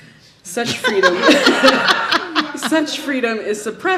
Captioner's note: audience laughs